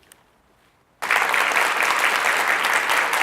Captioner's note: clap